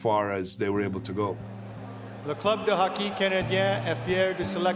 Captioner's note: speaking french